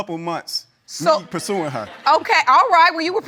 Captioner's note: audience laughs